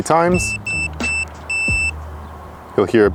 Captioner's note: beeping